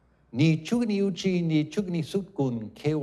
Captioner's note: non-english speech